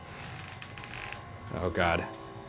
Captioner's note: door creaks